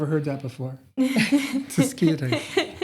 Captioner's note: laughter